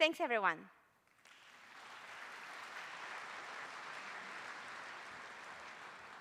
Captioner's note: applause